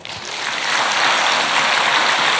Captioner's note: audience applause